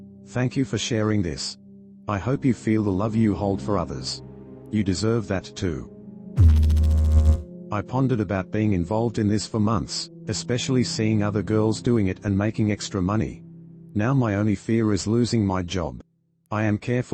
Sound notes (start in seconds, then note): 6.4 electrical noise